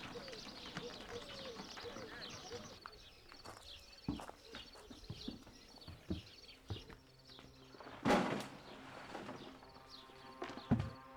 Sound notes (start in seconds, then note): 3.1 footsteps